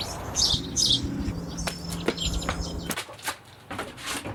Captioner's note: footsteps